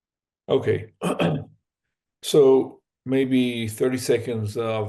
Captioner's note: cough